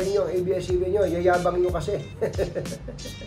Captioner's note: laugh